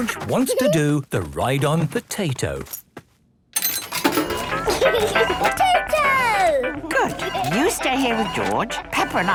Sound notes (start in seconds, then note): 4.4 giggling